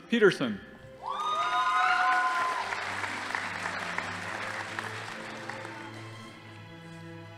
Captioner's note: crowd cheering; audience applauding